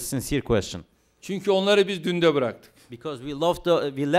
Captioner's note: non-english speech